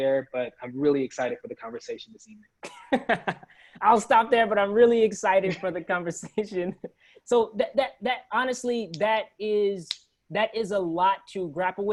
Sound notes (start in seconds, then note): 2.6 laughs